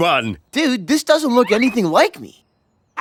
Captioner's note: laughs